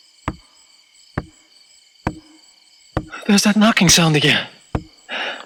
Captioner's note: radio crackling